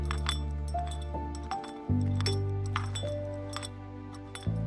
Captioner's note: footsteps